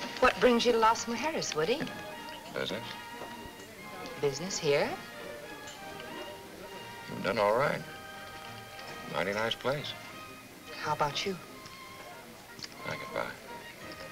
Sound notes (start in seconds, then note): none